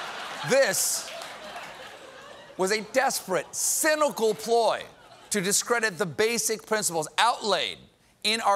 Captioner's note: laughter